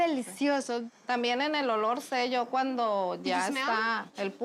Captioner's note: speaking Spanish